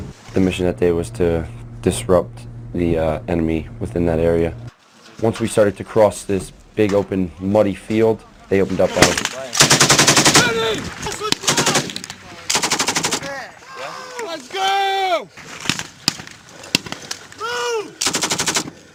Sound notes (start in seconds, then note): 9.5 sound of automatic machine gun fire; 15.7 semi-automatic gunfire; 18.0 automatic machine gun fire